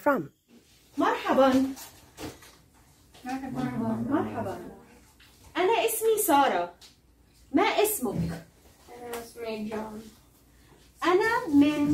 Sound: speaking Arabic

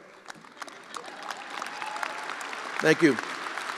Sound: attendees applauding

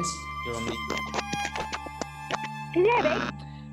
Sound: mic static

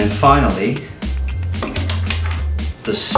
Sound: tapping on glass

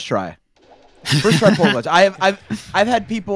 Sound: laughter

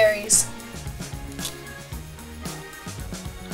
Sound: eating; upbeat music

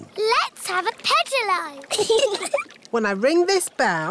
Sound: giggling

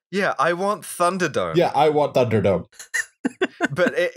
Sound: laughter

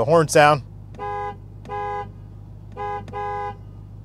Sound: car honking

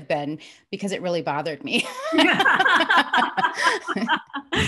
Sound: laughs

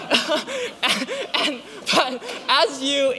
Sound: laughs

